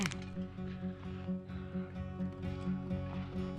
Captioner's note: bones crack